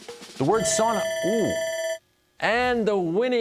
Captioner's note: bell ringing